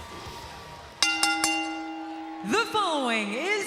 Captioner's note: bell ringing